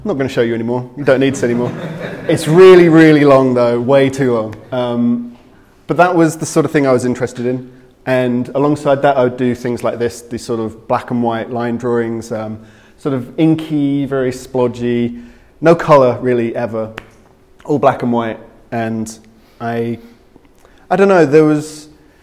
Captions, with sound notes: I'm not gonna show you anymore, you don't need to see anymore. (crowd laughing) It's really, really long though, way too long. But that was the sort of thing I was interested in. And alongside that, I would do things like this, these sort of black and white line drawings. Sort of inky, very splodgey, no color really ever, all black and white. And I don't know, there was,